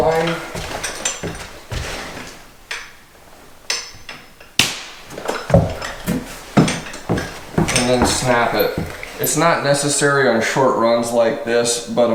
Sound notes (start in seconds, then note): 4.6 chalk line snaps